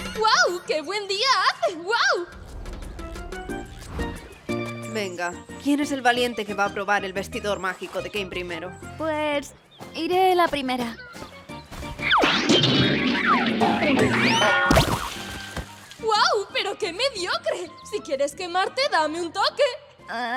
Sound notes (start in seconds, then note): 11.9 doink!; 11.9 poink!; 12.1 bonk!; 13.1 boink!